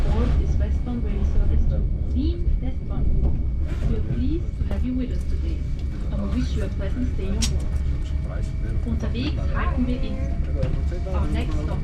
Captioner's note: announcement with station stops